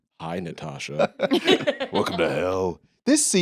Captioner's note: laughs